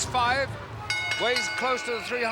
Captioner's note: bells rings